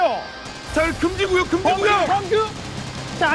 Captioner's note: sand storming